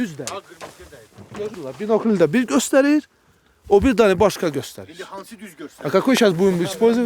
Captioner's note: talk on Persian language